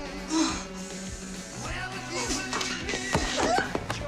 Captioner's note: grunting